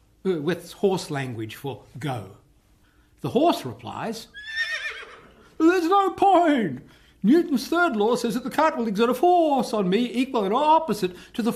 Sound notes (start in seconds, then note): 4.3 neigh